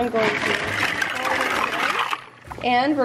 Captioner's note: clacking sounds of pasta drowns out speaker